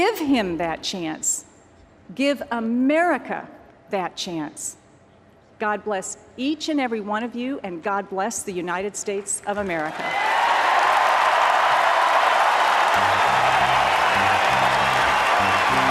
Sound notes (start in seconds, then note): 12.6 applause and cheers